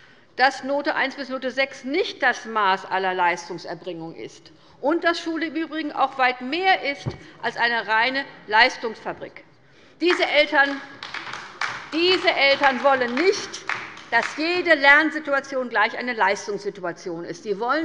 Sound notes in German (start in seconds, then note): 10.0 Beifall bei der LINKEN